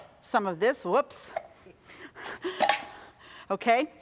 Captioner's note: chuckling